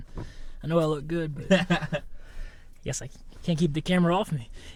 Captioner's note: Thomas laughs